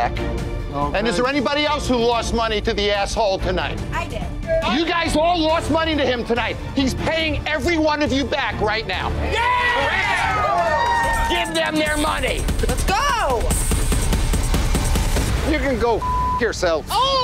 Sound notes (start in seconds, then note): 9.2 crowd cheers; 16.0 beep